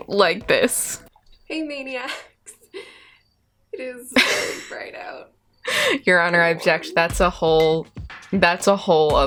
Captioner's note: laughter